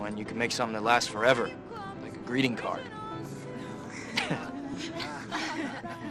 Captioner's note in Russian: смеется над собой